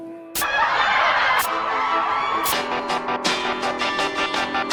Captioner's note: people laughing